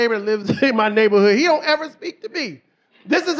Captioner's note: laughs